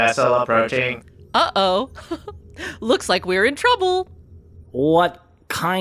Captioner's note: laughs